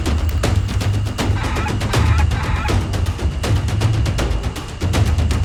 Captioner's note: dinosaur squawking